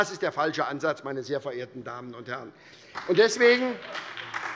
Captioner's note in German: Beifall bei der SPD